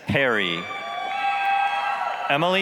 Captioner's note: applause, cheering